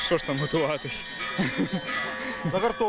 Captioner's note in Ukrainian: Сміється